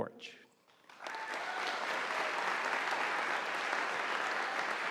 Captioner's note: audience applauding